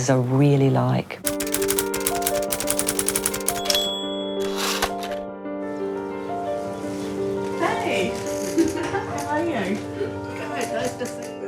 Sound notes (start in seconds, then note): 2.8 typing clicks; 3.6 ding!